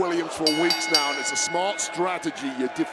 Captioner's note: bell rings